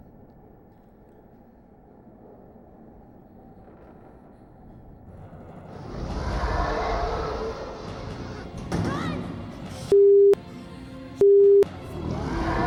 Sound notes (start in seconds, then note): 6.6 roars